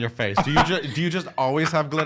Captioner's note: laughs